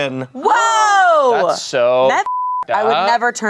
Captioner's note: beep